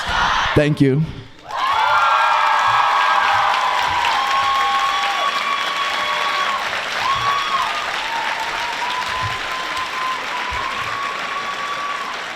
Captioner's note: applause